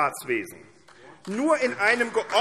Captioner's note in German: Beifall AfD